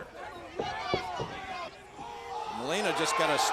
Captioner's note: troops shout